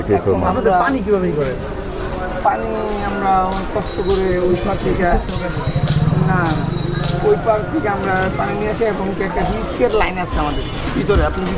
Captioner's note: local language